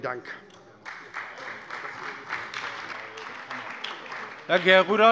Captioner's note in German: Beifall bei der SPD, der CDU und der FDP